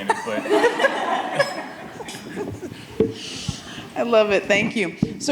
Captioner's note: audience laughing